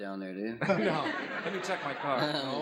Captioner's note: laughs